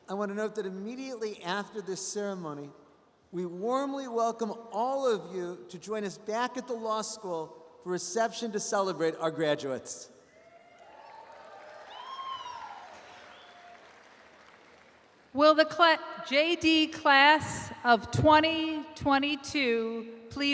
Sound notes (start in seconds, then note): 10.5 audience applauds